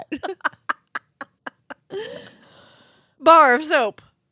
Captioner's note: laughing